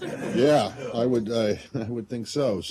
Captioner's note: laughter